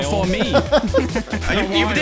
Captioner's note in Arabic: الكل يضحك